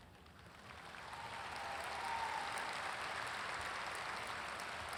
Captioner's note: audience applauds